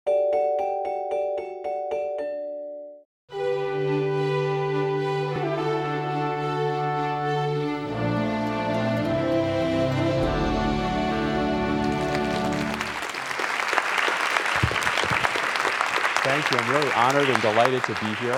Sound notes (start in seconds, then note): 8.4 applause